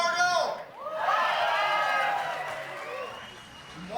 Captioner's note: crowd responds; applauding, whistling